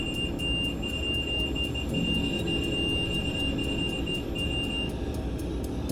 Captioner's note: REM-Pod beeping; tense music